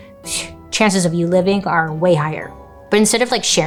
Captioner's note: scoffs